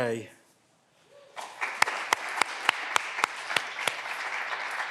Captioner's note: clapping continues